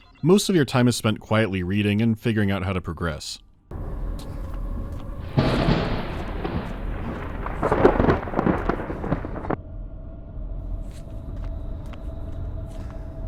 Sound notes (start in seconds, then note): 3.7 even background hum; 5.3 rolling thundercrack; 9.7 even background hum, breathing and quiet clapping of his feet